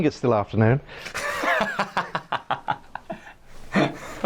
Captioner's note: laughing